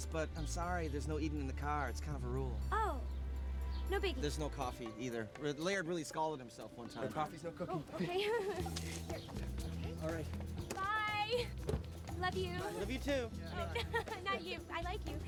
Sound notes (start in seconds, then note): 13.6 laughs